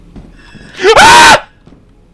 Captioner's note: screams